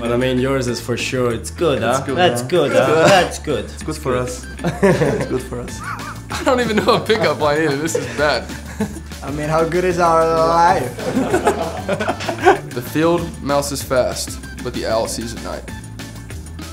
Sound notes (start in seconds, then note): 4.6 both laughing; 10.9 both laugh